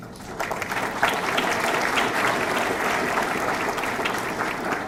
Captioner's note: audience clapping